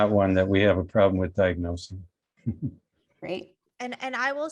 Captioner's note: laughs